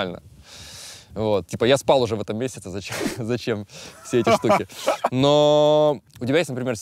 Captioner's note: laughs